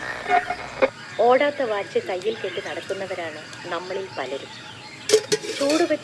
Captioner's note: speech from the radio